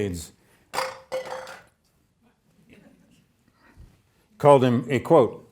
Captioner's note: object clattering